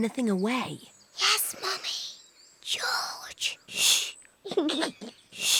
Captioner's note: whispers; giggles